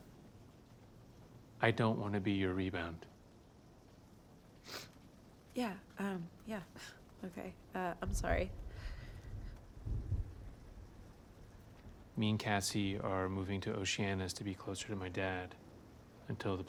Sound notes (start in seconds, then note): 4.6 sniffles